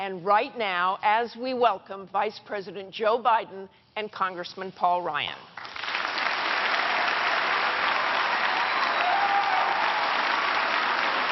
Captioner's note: applause